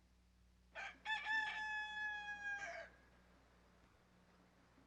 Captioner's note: rooster crowing